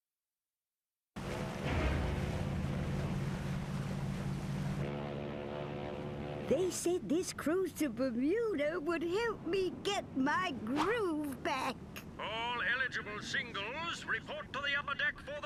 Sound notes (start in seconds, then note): 1.2 water splashing; 4.7 ship's horn blowing